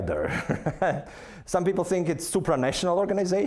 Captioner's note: laughing